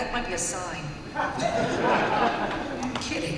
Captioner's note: laughter